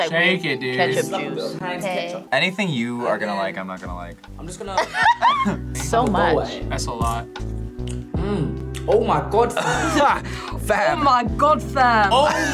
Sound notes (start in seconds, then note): 4.7 both laugh; 9.6 laughs